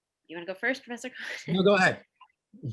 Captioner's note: giggles